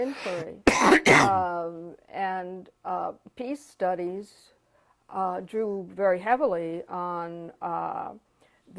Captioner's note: cough